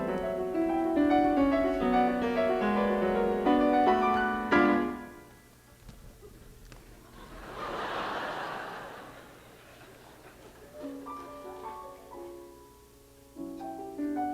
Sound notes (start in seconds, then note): 4.7 music abruptly stops; 6.2 thud; 7.0 crowd laughter; 10.6 soft music